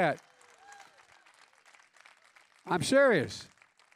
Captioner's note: applause